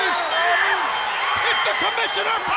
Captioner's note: bell rings